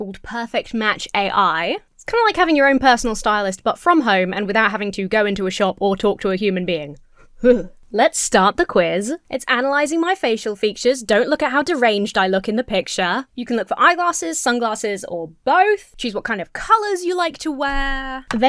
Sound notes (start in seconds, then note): 7.4 Emma shudders